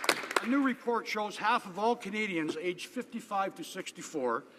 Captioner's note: some Applause